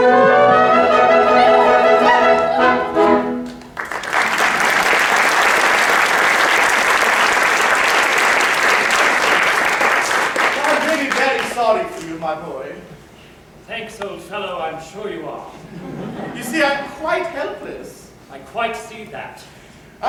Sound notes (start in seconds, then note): 3.5 applause; 15.6 laughter